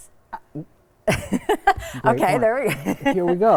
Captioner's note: laughing